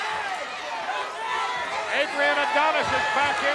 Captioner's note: audience chattering